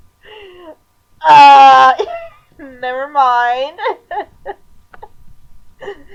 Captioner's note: laughing